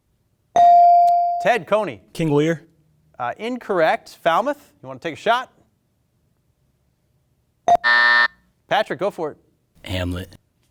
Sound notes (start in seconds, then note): 0.4 buzzer chimes; 7.7 buzzer buzzing